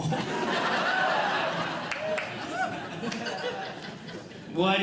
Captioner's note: audience Laughing